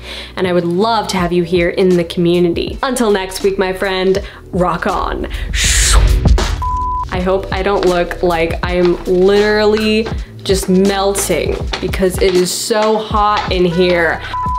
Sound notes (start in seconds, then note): 5.2 vocalizes; 6.5 beep; 14.2 beep